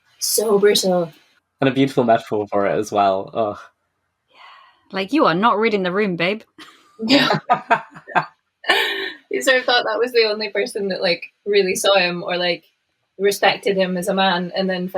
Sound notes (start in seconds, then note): 7.0 laughing